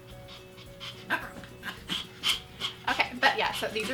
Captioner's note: growling